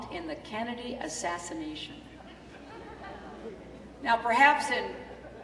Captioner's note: laughter